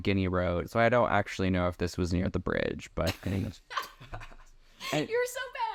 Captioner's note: laughing